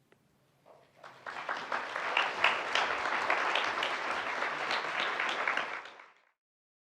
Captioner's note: audience applauding